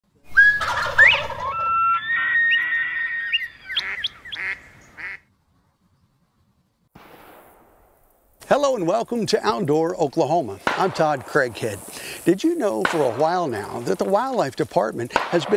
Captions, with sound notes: ( bird calls ) >>> HELLO, AND WELCOME TO OUTDOOR OKLAHOMA . I'M TODD CRAIGHEAD. DID YOU KNOW FOR A WHILE NOW THAT THE WILDLIFE DEPARTMENT HAS